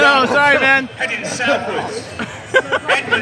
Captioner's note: laughing